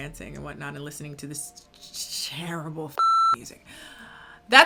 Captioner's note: beep